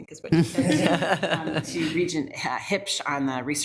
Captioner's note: attendees laughing